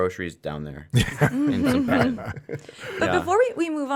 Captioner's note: laughing